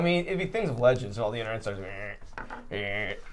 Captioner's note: groans